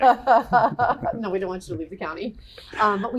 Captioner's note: laughter